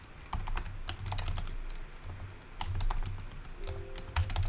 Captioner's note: keyboard typing